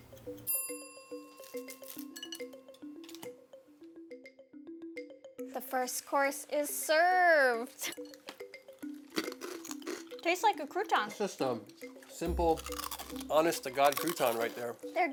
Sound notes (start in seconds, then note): 0.5 clock ticking; 1.4 croutons clattering; 7.9 both chewing